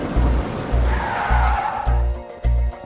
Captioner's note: brakes squeal